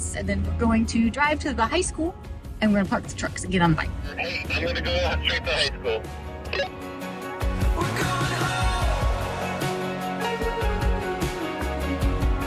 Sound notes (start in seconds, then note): 6.5 walkie talkie beeping